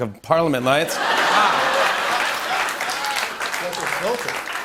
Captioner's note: laughter